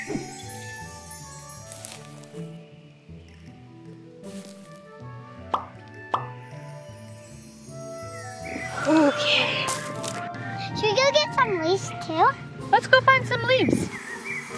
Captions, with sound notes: (whimsical music) (flowers popping) Okay. - Should we go get some leaves too? - Let's go find some leaves.